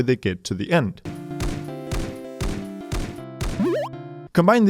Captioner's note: game sound playing